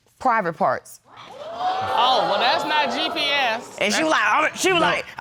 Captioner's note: audience gasps